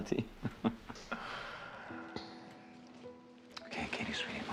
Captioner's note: Frank laughing